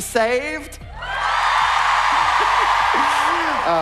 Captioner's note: cheering